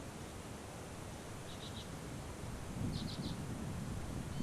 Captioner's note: birds chirping